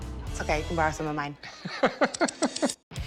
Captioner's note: laughs